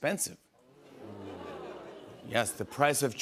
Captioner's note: audience "Oohs"